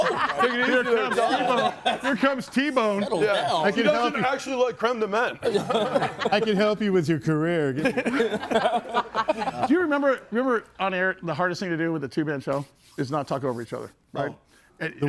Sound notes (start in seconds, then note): 0.0 group chattering; 5.3 group laughs